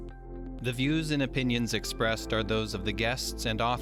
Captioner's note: voiceover